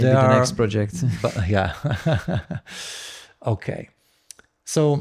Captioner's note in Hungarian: nevetés